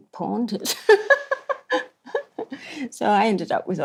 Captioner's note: laughs